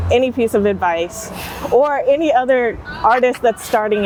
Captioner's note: chuckling